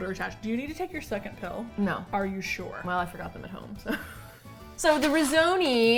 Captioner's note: laughs